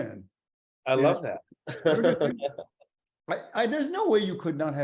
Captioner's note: laughs